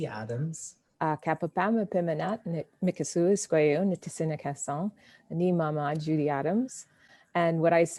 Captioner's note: speaking in foreign language